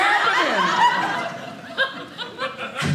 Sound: audience laughing

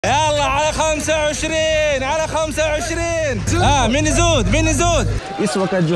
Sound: Arabic

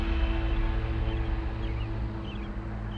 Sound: birds calling

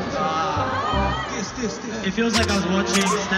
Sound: in English

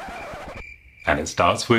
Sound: record scratching; crickets chirping

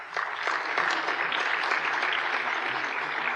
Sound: applause

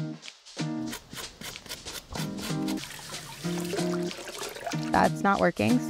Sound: upbeat music; brush scrubbing; water running

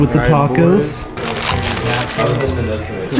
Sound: paper rustles

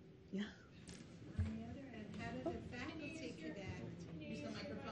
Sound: audience talking

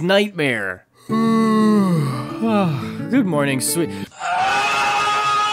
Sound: yawn

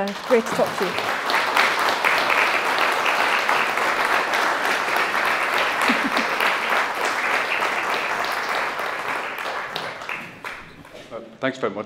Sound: applause

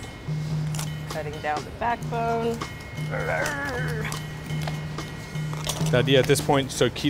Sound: grunts

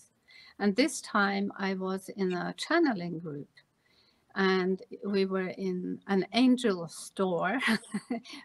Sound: chuckles

